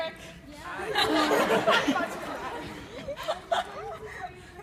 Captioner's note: audience laughs